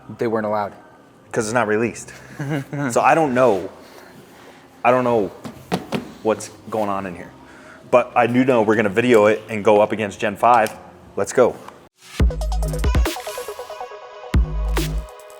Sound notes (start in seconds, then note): 2.1 laughs; 12.0 synth music